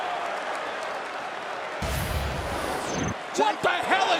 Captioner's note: crowd cheering